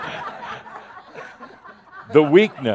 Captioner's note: laughter